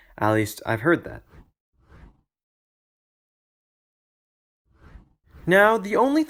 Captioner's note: transition swooshes